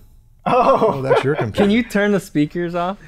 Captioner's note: chuckle